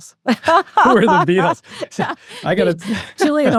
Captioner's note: laughs